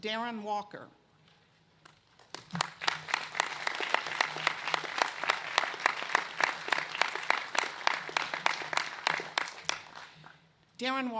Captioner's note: applause